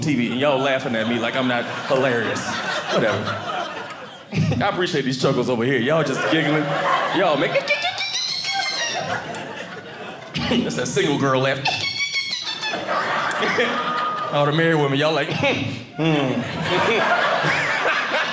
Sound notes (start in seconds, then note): 6.0 laughing; 12.8 audience laughing; 15.9 audience laughing